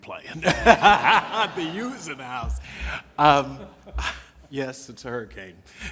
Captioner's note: laughter